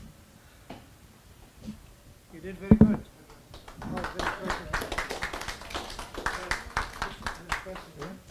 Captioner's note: audience applause